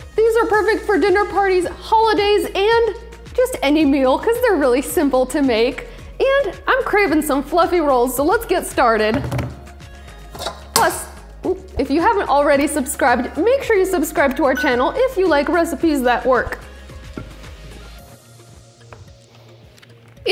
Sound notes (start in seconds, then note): 9.2 hands drumming; 17.1 upbeat music